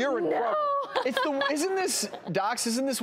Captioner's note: laughter